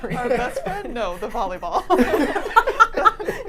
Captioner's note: laughs; laughing